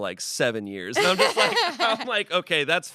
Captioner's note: laughs